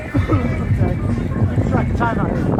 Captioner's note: female coughs